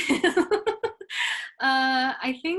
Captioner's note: laughs